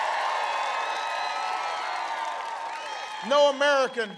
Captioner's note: applause